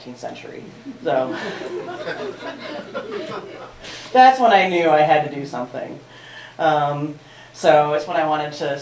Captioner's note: laughter